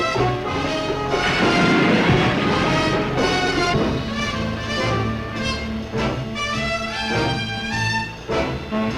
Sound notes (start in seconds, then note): 1.2 waves roaring; 3.8 jazzy orchestral music